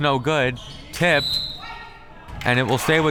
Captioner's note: whistle tweeting